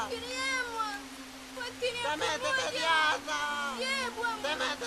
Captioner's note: arguing in native language